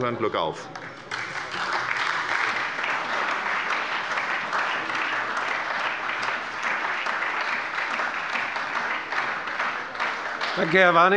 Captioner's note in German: Beifall bei der SPD